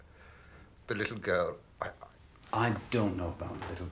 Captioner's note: none